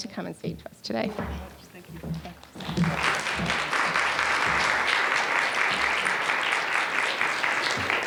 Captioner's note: applause